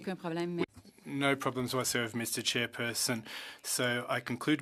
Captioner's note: speaking French